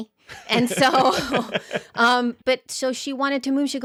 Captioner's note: laughing together